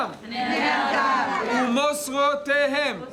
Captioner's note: speaking in foreign language; women speaking in foreign language; speaking in foreign language